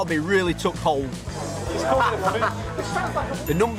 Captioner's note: background chattering; laughs